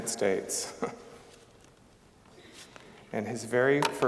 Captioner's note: chuckling